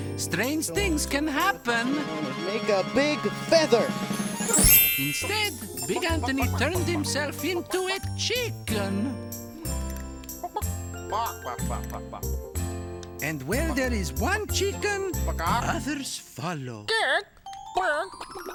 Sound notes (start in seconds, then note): 3.9 bells ringing